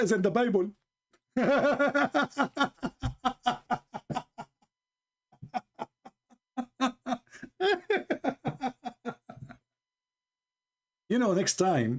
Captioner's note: Ketawa